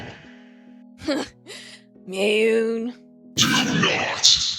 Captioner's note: snorts